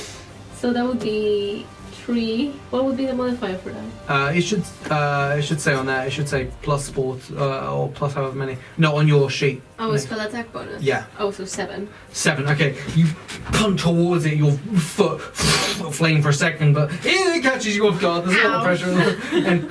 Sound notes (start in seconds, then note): 14.6 fwooshing noise